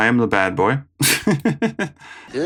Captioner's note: more giggling